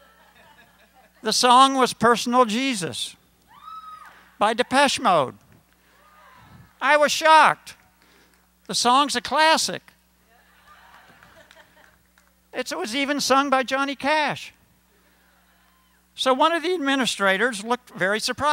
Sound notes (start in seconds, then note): 10.3 laughter